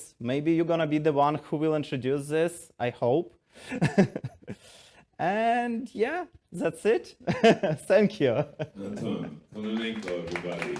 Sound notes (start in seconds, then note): 3.7 chuckles